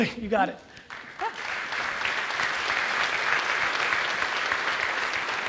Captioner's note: audience applauds